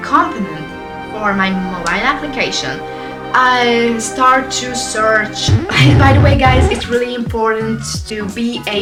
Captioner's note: record Scratch